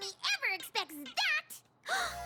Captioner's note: gasp